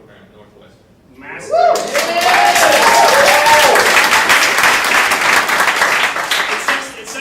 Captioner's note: audience cheering